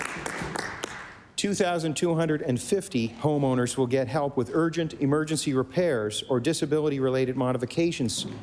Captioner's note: applause